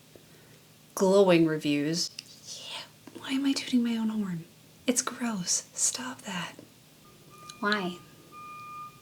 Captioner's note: truck beeping outside